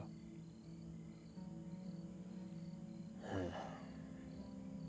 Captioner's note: crickets chirping; Ben sighs